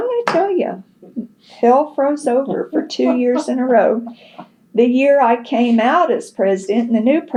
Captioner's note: laughter